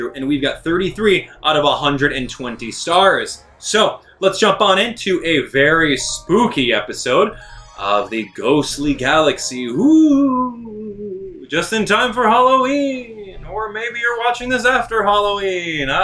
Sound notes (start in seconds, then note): 10.0 hooting